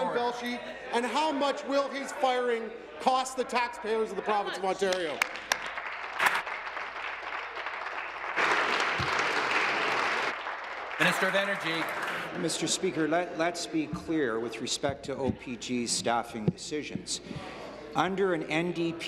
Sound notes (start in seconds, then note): 9.4 applause